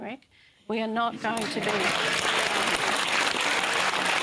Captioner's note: cheering and applause